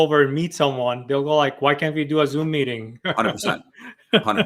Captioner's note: laughs